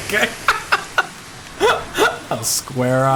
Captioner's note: laughing